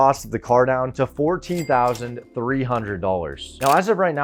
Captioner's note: cash register dings